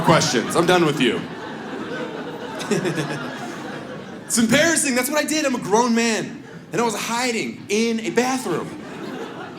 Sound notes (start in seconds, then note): 1.7 audience laughs